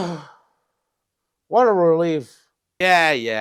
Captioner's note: sigh